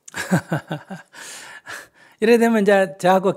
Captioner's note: laughter